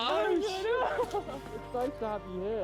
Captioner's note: laughing